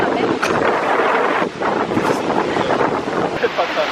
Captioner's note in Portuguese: som das cachoeiras e vento